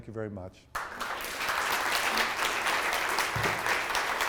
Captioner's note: applause